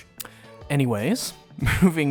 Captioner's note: smooch